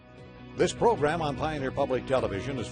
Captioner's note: voiceover